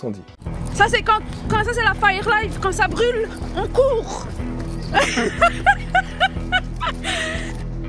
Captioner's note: laughs